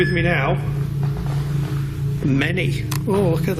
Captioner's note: beeps